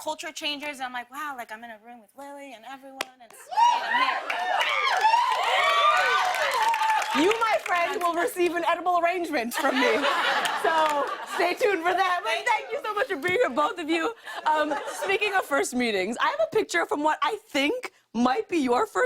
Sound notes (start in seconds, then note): 3.4 cheers and applause; 9.5 laughter